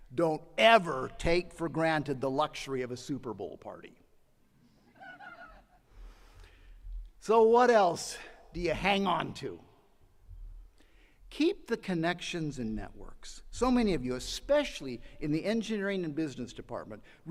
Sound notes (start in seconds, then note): 4.9 attendee laughing